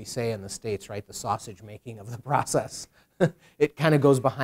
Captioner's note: chuckles